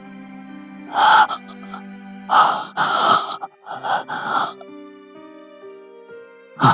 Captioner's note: panting